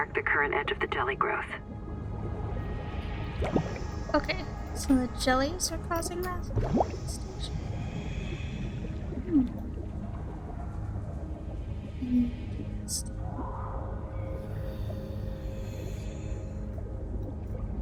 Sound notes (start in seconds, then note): 9.1 whispering; 13.1 whispering; 16.0 water bubbling